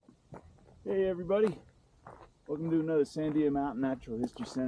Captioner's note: gravel crunching underfoot